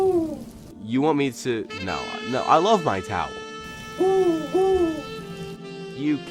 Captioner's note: chirping